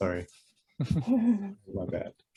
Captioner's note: group chuckles